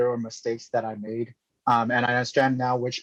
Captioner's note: speaking chinese